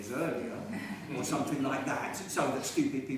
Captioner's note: laughing